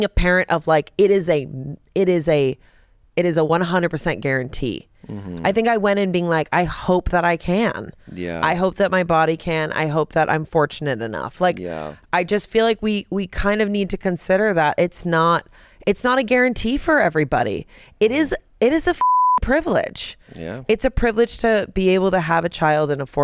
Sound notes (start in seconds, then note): 19.0 beep